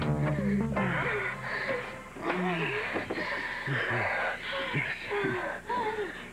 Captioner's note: Gémissements